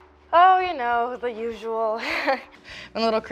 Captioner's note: laughs